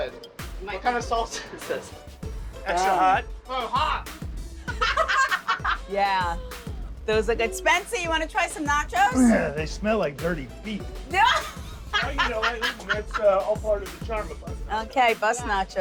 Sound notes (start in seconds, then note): 4.6 laughing; 11.2 laughing